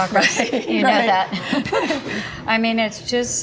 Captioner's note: laughing